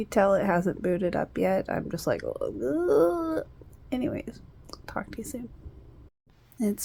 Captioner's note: groans